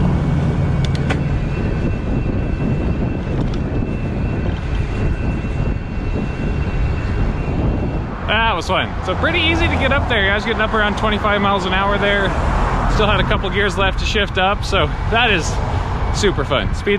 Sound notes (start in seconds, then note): 0.8 gears clicking; 1.6 electric motor whining